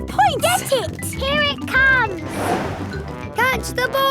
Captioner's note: whoosh